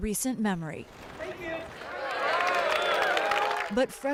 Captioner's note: cheering and applause